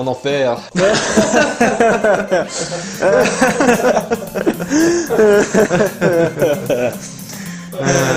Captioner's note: laugh